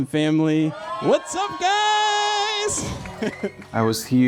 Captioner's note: chuckles